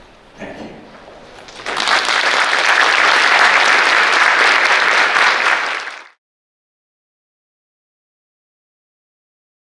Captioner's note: applause